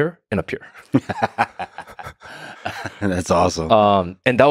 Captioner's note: Lex laughing